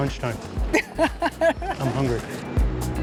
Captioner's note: laughs